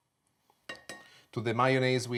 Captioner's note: tapping bowl